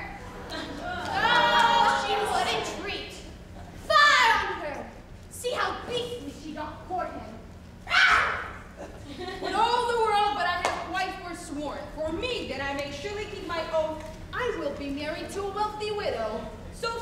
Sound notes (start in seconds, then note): 0.0 audience groans; 7.8 Bianca screeches